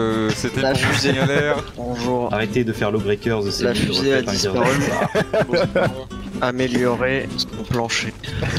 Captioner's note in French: rire